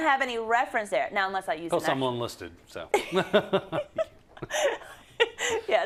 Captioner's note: laugh